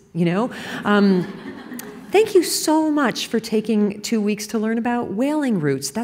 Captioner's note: laughter